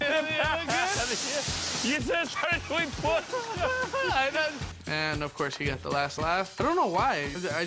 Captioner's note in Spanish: laughs